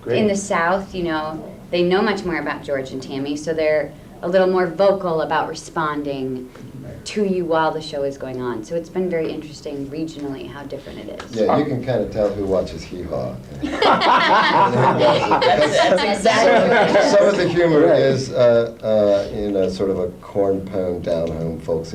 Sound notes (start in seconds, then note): 13.6 laughing